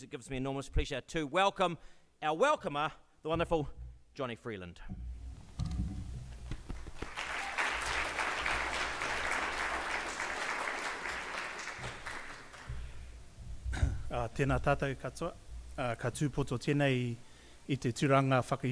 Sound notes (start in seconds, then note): 6.4 audience clapping; 14.4 speaking in Māori